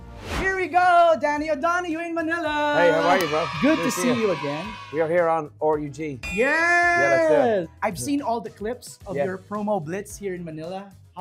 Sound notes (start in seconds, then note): none